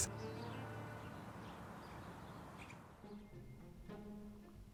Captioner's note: birds chirping